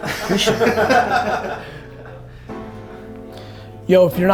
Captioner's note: group laughter